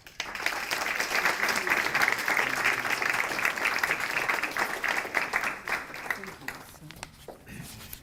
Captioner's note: applause